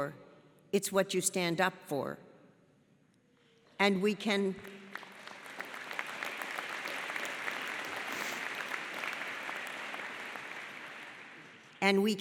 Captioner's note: audience claps